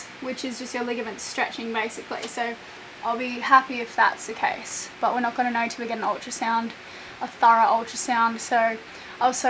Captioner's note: none